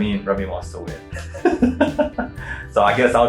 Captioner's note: laughing